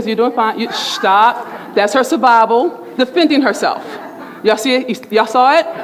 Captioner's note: speaking faintly; shushing; laughter